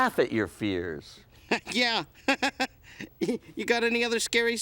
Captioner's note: Gabe chuckling